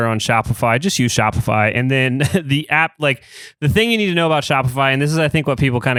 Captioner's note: laughs